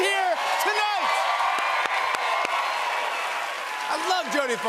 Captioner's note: cheers and applause